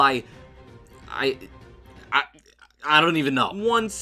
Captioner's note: stuttering